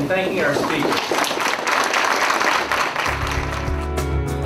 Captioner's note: applause; outro music